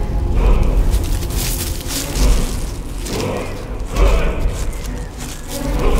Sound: more leaves crunching

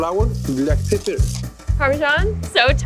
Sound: grinder scraping

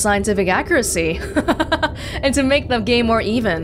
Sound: laughs

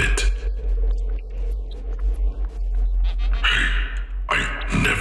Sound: series of rude beeps as if offended

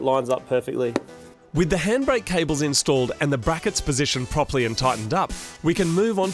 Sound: Moog Voiceover

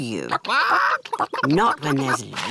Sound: chickens chatter

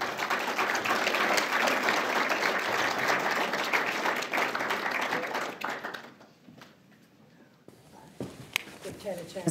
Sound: applause

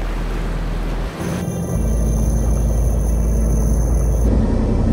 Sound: waves crashing

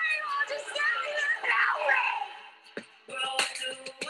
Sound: crowd chattering

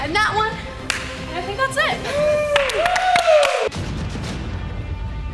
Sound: all cheer

